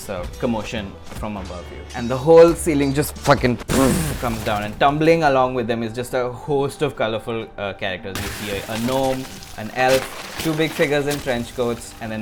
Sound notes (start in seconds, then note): 3.7 boom